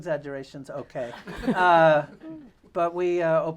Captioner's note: laughter